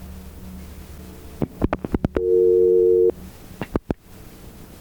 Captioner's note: dial tone ringing